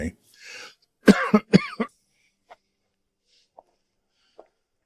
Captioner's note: coughing